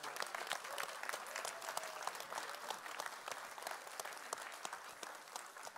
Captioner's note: applause